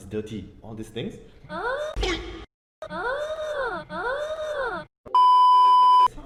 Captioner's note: unusual huh-ing